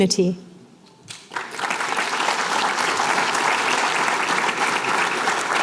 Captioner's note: applause